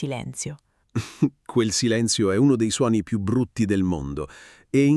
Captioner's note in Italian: Haha